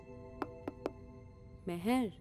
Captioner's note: Knocks